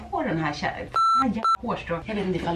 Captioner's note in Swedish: Pip